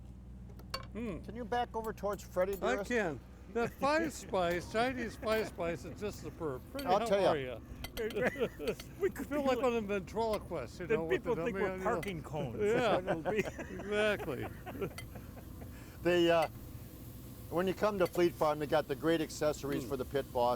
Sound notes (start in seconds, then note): 8.0 laughs; 14.1 laughs